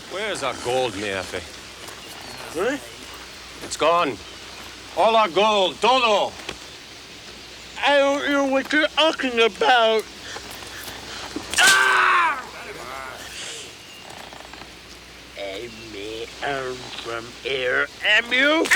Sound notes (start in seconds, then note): 6.2 speaks Spanish; 11.4 Bruto screams